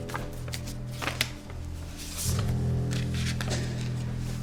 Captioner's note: intense dramatic music; envelope rustles